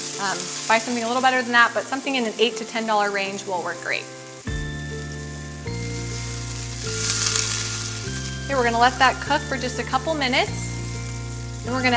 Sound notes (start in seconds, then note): 4.4 upbeat music continues; 6.7 meat sizzling